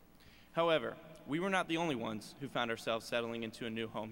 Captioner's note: none